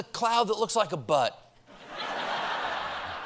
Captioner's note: laughter